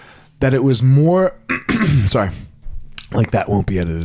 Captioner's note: clears throat